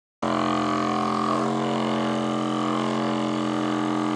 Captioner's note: vibrating sounds